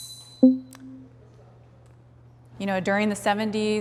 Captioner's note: soft intense music; text box pops